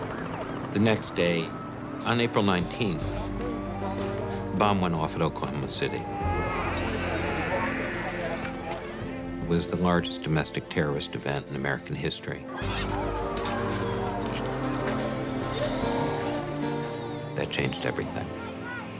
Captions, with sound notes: The next day, on April 19, the bomb went off at Oklahoma City. (baby crying) It was the largest domestic terrorist event in American history. That changed everything.